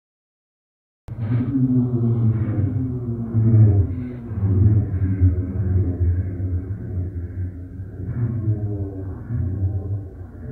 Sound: sound of devils

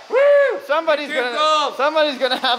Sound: screams

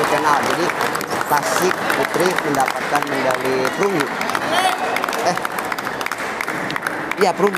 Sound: applause

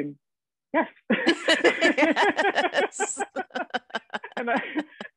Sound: both laughing

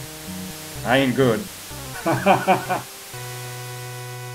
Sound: laughs

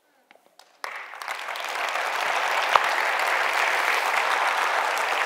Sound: audience applauds

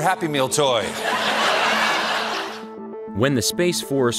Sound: audience laughing

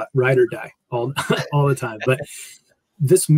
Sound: laugh

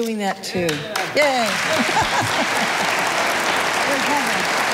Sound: audience applauding

